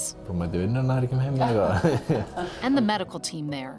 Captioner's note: speaking Icelandic